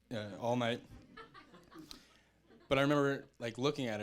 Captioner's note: audience chuckling